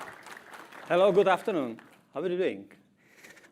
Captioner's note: applause